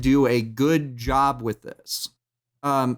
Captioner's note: thumps table